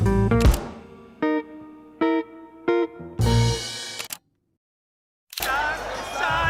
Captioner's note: jazz music; camera clicking